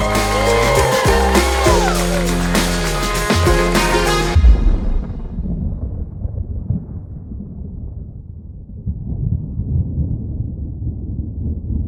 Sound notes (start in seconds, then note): 0.0 cheers and applause; 4.4 quiet thunder roll